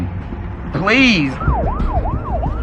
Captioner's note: sirenen w waililing